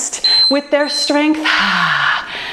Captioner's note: timer beeps